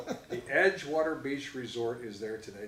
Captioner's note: laughs